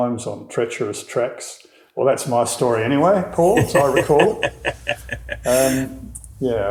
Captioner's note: laughing